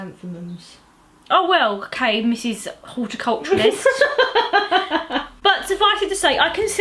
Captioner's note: laughs